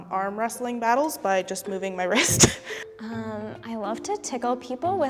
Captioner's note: laughs